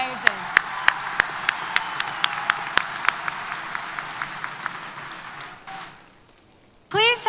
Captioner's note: applause & Cheers